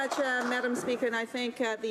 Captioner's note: speaking French